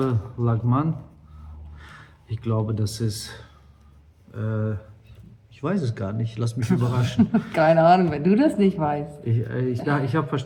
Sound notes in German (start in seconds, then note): 6.7 gelächter